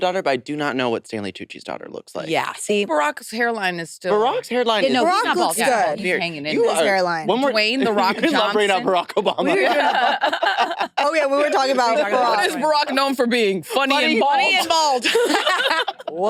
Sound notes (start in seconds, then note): 6.0 participants chattering; 10.5 participants laughing